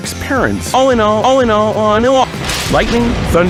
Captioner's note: it plays again in reverse